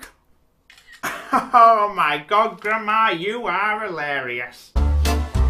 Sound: camera snap sound

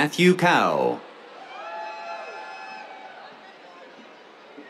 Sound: cheers

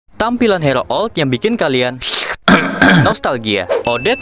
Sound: slurp ehm ehm

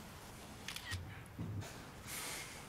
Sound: camera click

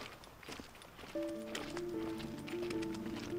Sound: footsteps

